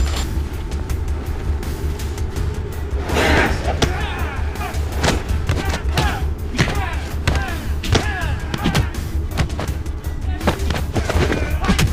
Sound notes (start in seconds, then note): 0.2 light dramatic music; 3.0 whooshing; 4.6 fists thudding; 5.6 men grunting